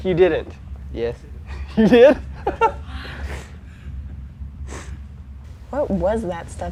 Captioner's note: laughs